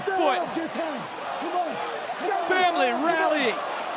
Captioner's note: yelling